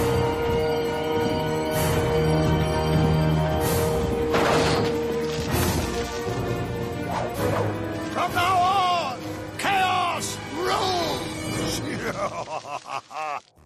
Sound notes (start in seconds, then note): 11.9 laughter